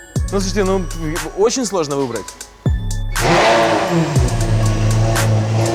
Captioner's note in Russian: слышен звук мотора